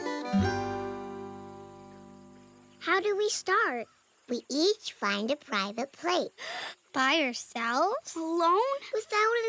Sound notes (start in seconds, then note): 6.3 gasp